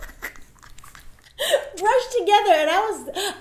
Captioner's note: laughing